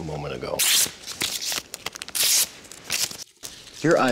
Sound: tearing paper

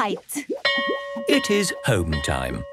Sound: bell rings

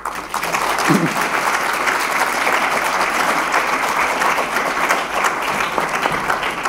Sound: applause

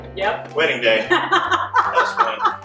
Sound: laughter

